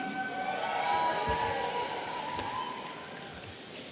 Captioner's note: audience cheering